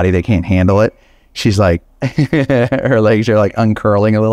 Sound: giggles

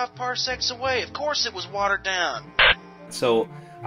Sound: radio static

